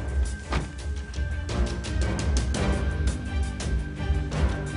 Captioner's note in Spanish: Portazo